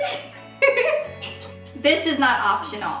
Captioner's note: laughing